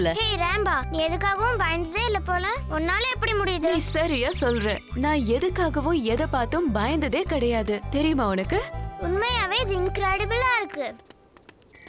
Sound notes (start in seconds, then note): none